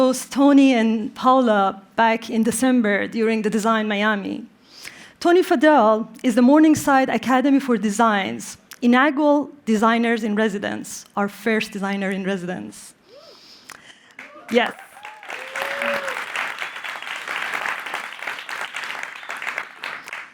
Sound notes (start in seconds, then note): 14.1 applause; 14.2 cheering